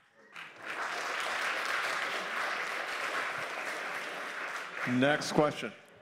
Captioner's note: applause